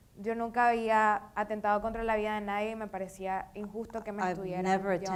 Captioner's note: speaking in foreign language